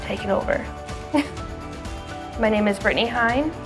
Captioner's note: laughing